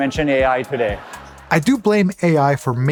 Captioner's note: crowd chuckles